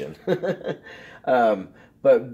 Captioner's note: giggles